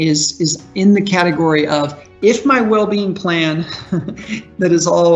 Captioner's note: chuckles